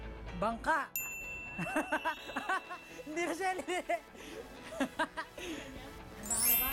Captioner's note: laughing